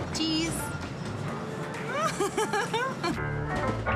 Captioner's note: Rires